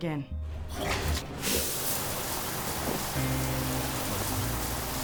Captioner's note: water splashing; soft music